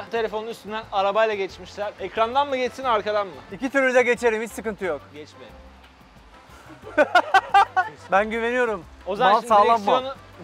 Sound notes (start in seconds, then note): 6.6 laughter